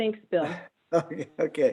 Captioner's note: laughing